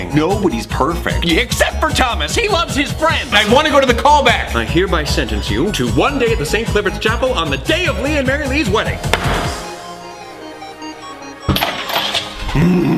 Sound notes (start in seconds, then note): 9.1 gavel thuds; 10.1 upbeat game music